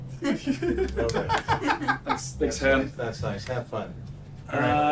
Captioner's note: laughing